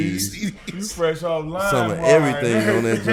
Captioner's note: laughs